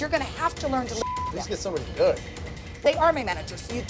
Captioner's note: beep